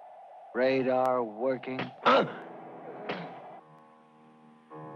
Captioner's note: grunting